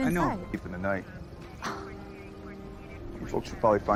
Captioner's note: scoffs